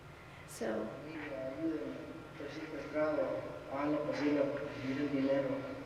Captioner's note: man speaking foreign language